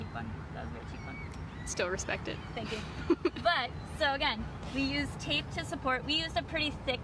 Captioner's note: chuckles